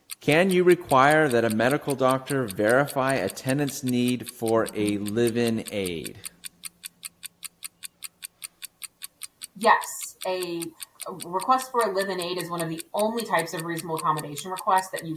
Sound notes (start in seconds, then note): 6.6 clock ticking